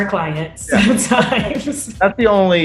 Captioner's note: laughs